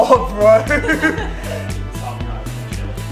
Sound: giggles

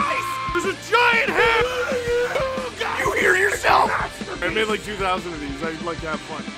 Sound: Harry potter screaming; screaming

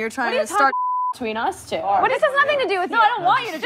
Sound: beep

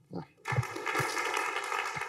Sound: applause

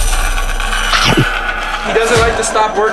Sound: saw whirring; food crunches

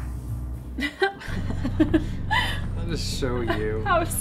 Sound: laughing

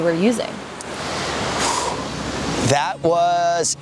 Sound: sighs

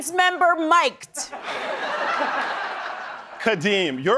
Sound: laughter

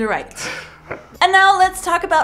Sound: laughs

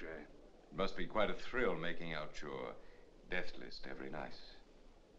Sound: none

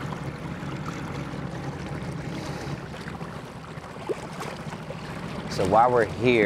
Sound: water splashing; boat engine revving

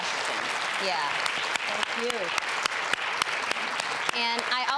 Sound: audience applause

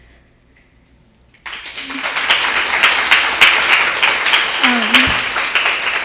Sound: audience applauding

